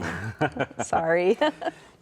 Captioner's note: chuckling